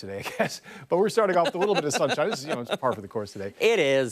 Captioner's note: laughter